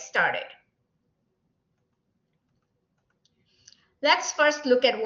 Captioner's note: silence